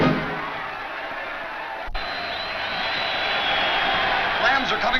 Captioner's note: crowd cheers